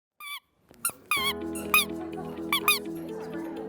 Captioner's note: squeaking noise